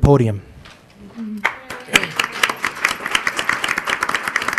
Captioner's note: crowd applauding